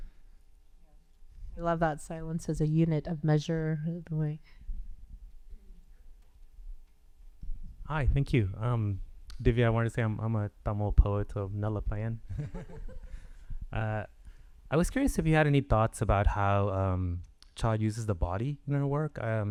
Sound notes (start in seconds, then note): 11.5 speaking Tamil; 12.3 all chuckling